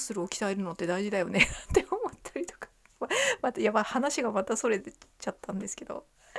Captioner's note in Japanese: 笑い